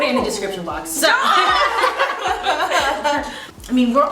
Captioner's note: laughter